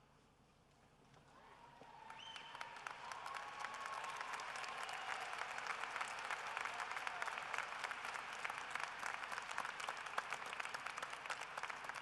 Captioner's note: cheering and applause